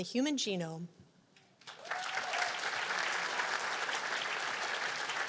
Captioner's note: cheers and applause